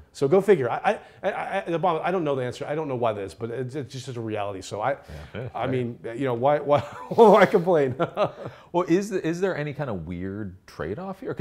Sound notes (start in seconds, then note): 8.3 laughing